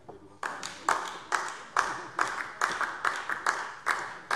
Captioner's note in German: Beifall DIE LINKE